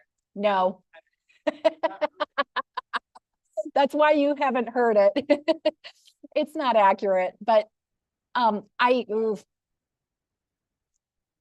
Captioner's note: laughter